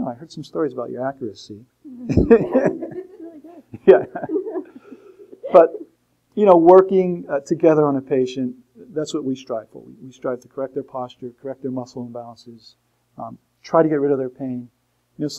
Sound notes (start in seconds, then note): 2.0 laughter